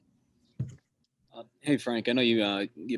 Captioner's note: cup thudding